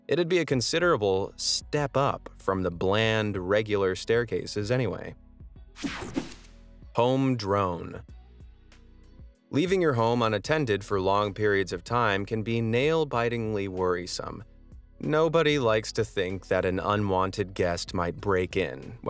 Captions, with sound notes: It would be a considerable step up from the bland, regular staircases anyway. (air whooshing) Home Drone. (upbeat music) Leaving your home on attended for long periods of time can be nail-bitingly worrisome. Nobody likes to think that an unwanted guest might break in